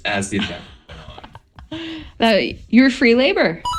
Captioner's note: laughs